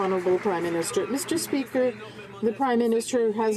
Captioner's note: some Applause